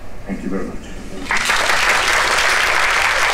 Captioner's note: applause